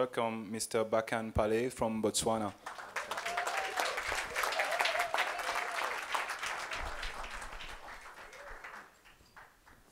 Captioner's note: applause